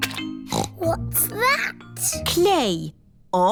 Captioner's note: snorts